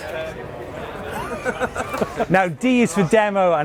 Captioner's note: laughing